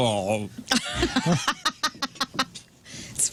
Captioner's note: laughing